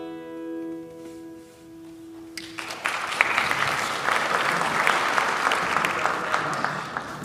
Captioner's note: applause